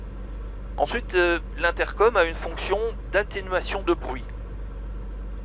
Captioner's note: squelch